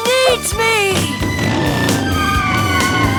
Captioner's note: engine revving; tires screeching